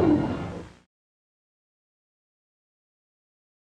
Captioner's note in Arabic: الصمت